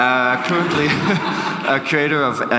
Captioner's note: audience laughs